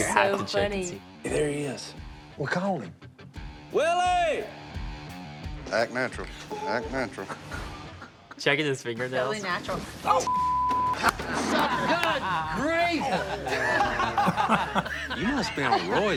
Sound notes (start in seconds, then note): 11.0 all laughing